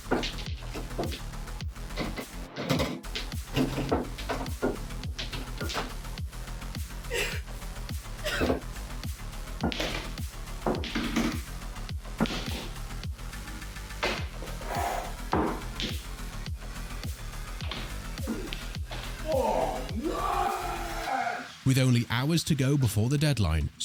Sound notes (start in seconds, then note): 0.1 moody electronic music; 9.1 moody electronic music; 19.1 Johnny roars